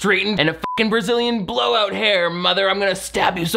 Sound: beep

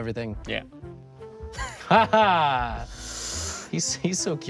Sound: both chuckles

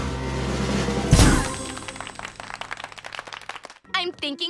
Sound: drumroll; clapping

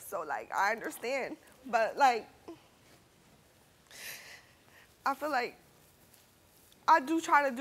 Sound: sobs

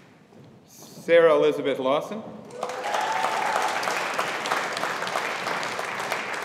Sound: audience applauding

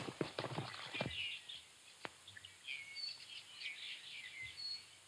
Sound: birds chirping

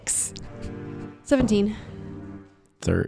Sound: laughing

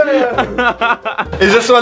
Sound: laughs

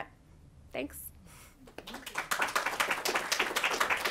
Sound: applause

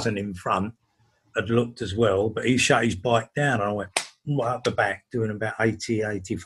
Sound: slaps hands

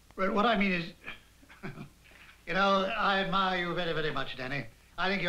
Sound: laughs

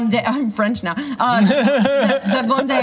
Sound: laughter

